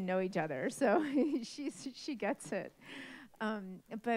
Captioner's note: chuckles